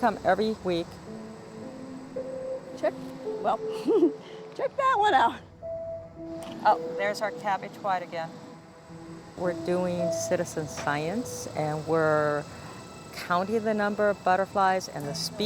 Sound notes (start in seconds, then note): 3.7 laughs